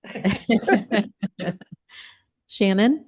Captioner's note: laughter